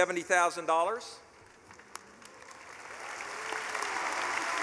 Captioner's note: clapping